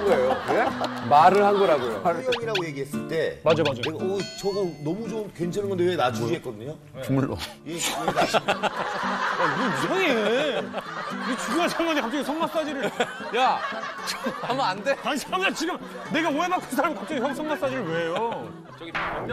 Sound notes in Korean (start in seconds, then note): 3.6 툭툭